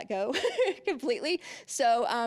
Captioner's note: laughing